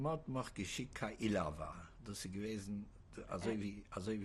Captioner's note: speaking yiddish